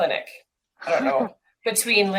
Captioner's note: laughs